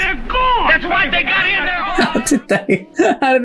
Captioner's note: chattering